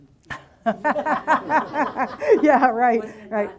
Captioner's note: audience laughing